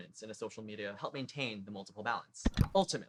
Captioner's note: click